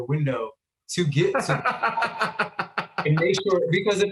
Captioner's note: laughing